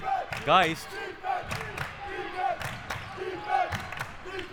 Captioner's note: clapping